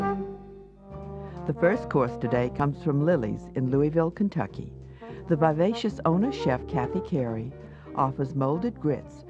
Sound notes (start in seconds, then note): 1.7 voiceover